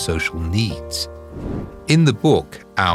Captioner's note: air whooshing